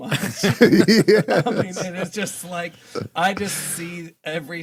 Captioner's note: laughing